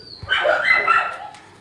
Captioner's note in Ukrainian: Гавкає